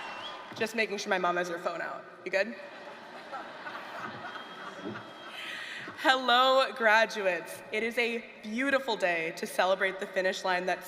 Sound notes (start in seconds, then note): 2.6 laughter